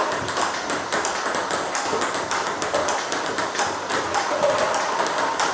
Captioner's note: ball ping pong hitting continues